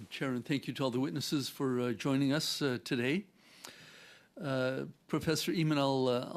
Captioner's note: speaking French